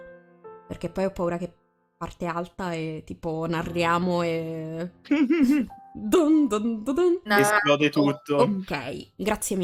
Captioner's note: laughs and dumb noises